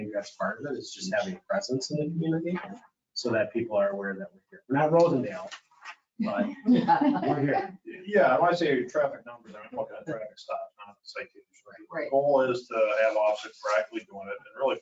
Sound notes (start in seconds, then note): 6.3 all laughing